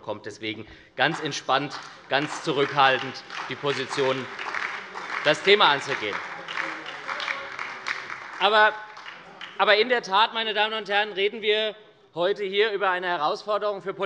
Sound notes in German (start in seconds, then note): 5.6 Beifall bei der SPD